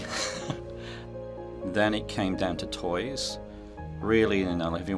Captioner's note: laugh